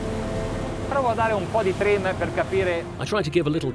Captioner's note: speaking foreign language